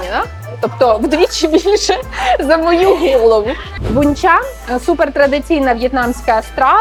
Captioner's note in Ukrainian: сміх